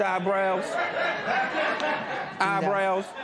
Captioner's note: laughter